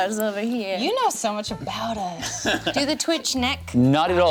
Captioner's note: chuckles